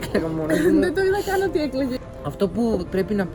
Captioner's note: giggles